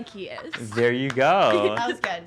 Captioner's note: laughter